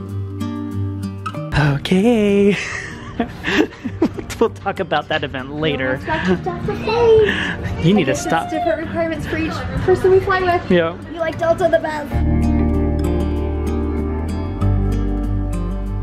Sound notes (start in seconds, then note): 2.6 laughs; 12.6 calm music